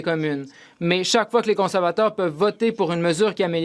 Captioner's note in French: voix de l'interprète